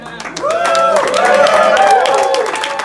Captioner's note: cheers